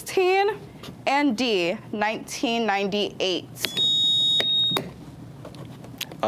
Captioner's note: buzzer beeps